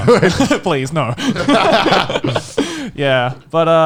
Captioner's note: all laughing